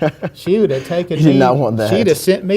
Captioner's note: laughs